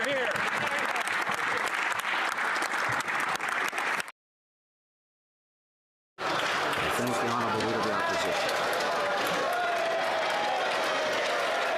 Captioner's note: applause